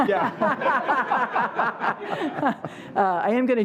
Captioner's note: laughing